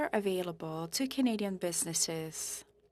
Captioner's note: speaking French